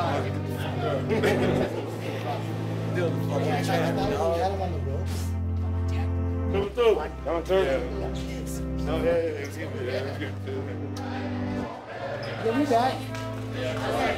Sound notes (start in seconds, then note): 2.9 laughter